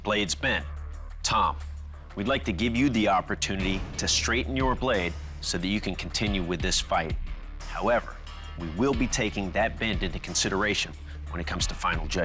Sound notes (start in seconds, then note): none